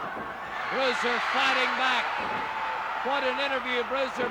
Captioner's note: crowd cheering